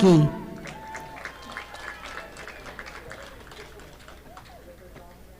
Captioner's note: audience applauding